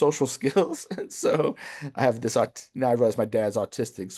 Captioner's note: chuckles